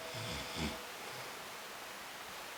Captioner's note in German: Leises Schnarchen